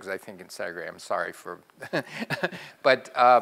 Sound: laugh

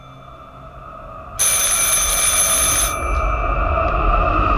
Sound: phone rings

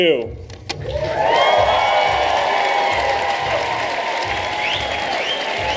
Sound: applause

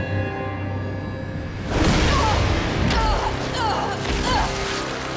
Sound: thudding, grunting

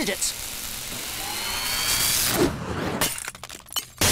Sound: sizzling, whirring

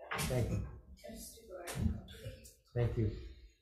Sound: faintly speaking

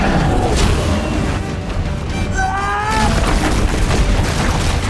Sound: yells

